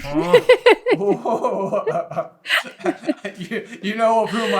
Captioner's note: laughter